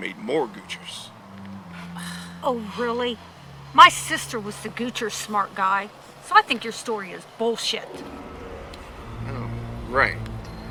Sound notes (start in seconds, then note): 1.8 Macy sighs